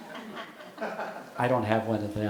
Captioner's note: audience laughing